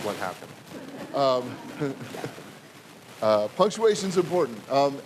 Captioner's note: audience laughing